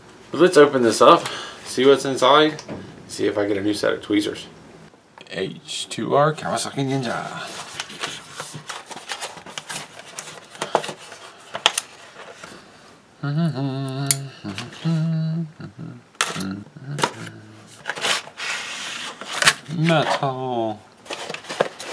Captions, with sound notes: But let's open this up. See what's inside. And see if I get a new set of tweezers. H2R Kawasaki Ninja. [rustle of packaging] [humming] Metal.